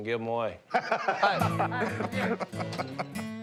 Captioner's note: laughter